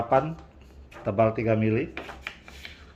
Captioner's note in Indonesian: suara plastik ditaruh